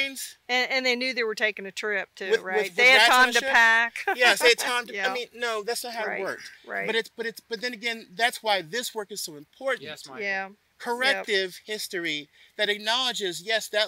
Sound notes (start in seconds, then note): 3.9 laughs